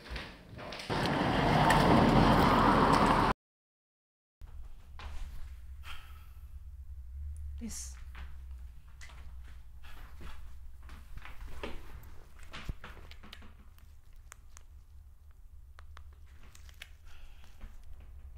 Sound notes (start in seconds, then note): 5.8 Trina exhaling sharply